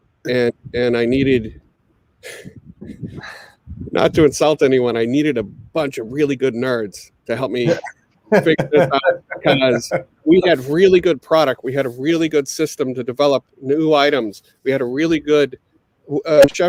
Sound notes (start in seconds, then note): 2.6 chuckles; 8.3 all laughing